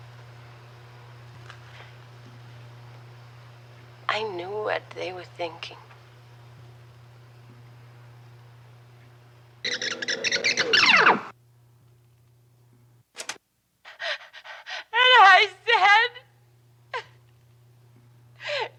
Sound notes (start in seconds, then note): 9.7 tape warbling; 12.9 play button clicks; 13.8 Betty panting